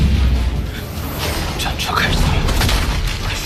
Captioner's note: the war chariot starts